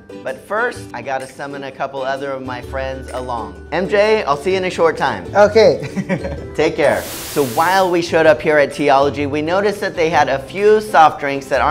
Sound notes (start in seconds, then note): 6.0 laughs